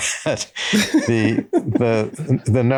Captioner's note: chuckle